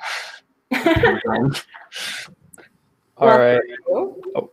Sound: laughing

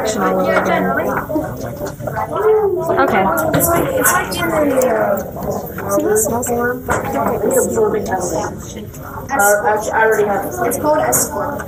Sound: students talking

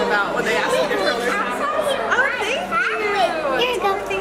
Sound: kids talking

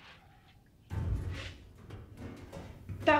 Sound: distant banging

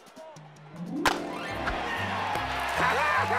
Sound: cheers and applause

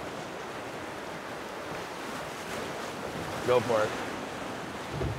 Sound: waves lapping

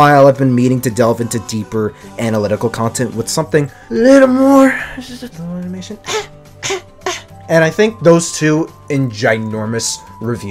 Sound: cough, animation

